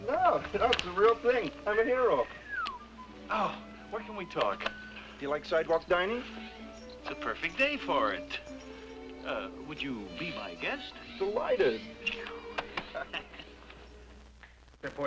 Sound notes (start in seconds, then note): 2.3 whistles; 12.7 both chuckle